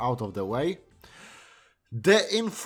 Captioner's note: inhale